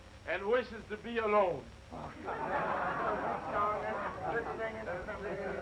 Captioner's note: all chattering